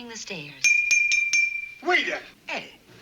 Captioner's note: bell dings